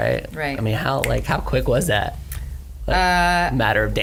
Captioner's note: snaps